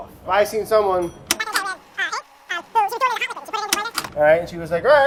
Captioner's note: fast forwarding noise